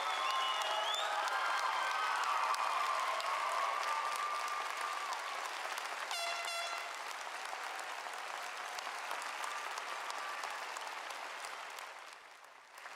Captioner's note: applause